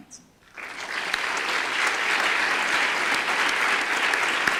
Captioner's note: audience applause